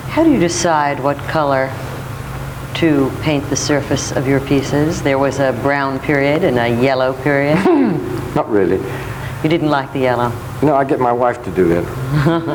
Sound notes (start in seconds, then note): 7.5 chuckles; 12.0 laughs